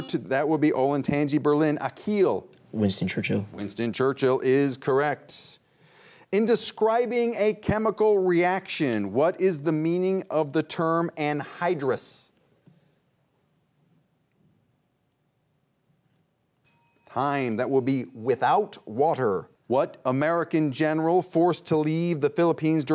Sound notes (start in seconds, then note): 16.6 bell dings